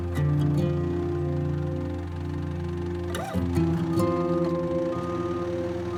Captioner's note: forklift engine